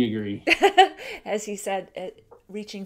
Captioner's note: laughs